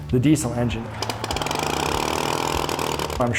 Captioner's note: engine starting up